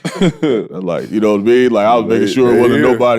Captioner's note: laughs